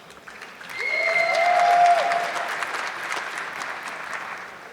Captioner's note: audience clapping